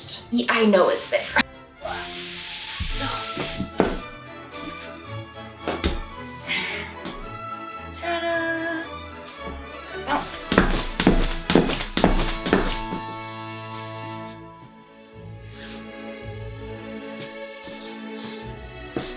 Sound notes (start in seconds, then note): 1.9 sounds of fabric rustle and struggle; 10.1 fabric rustles and shoe taps